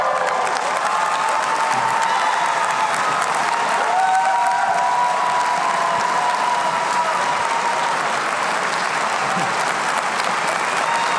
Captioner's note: applause